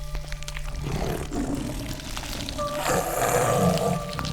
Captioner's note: entity growling